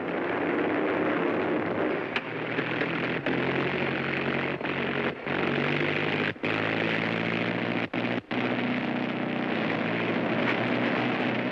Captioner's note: aircraft rumbling